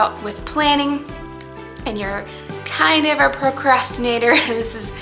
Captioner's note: chuckles